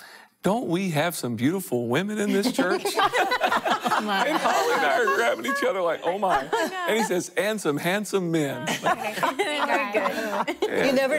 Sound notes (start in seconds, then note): 2.3 laughter